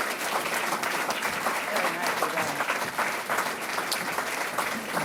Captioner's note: applause